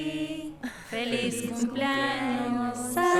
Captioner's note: Esperanza ríe